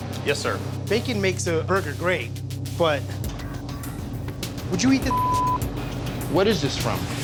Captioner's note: beep